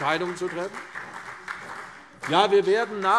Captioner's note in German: Beifall CDU, BÜNDNIS 90/DIE GRÜNEN und vereinzelt SPD